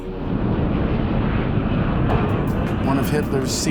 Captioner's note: jet engines roaring